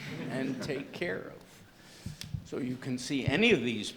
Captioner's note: laughter